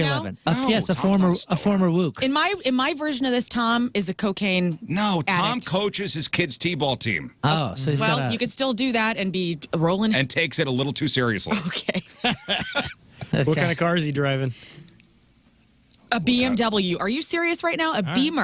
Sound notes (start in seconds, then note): 13.2 laughing